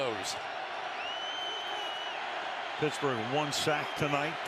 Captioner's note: cheers, applause